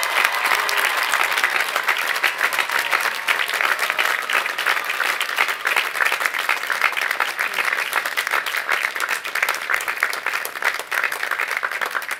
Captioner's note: applause